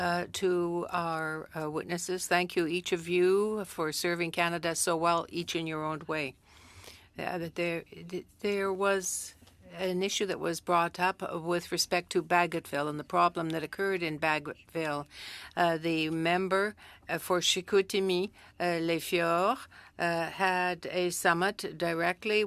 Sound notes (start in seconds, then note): 3.4 speaking french